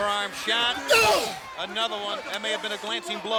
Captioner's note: crowd yelling; Booker grunting